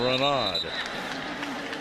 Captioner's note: whistle